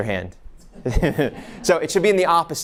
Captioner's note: laughs; audience laughs